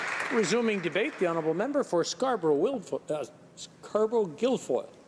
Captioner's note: applause